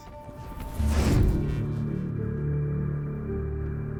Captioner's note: magic fwoosh